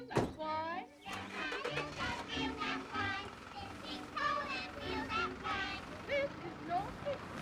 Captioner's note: children's TV chatter; truck engine thrumming